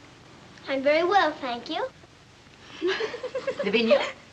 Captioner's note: giggling